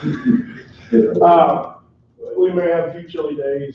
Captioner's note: laughter